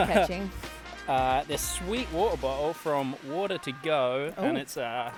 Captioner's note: laughs